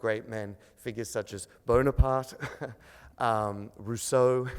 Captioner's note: chuckles